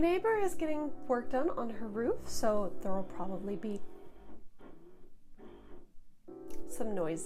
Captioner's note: drilling noises